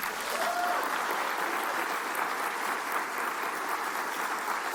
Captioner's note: cheers and applause